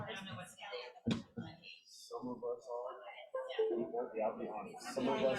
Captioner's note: indistinct crowd chatter